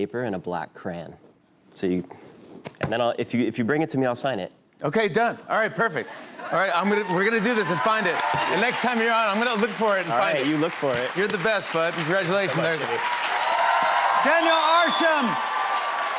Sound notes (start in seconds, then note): 12.7 cheers and applause